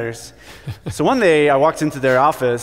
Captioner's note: laughs